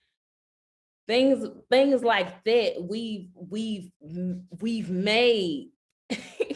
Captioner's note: chuckling